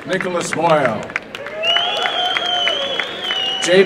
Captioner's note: applause and cheering